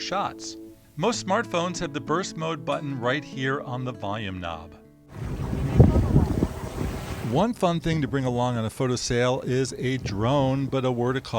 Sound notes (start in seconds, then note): 5.1 waves breaking and wind blowing